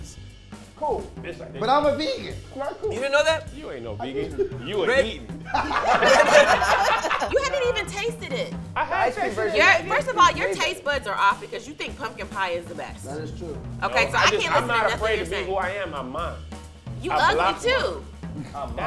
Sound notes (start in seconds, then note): 5.8 group laughs